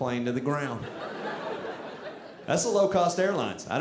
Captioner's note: audience laughing